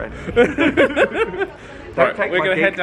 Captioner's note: both laugh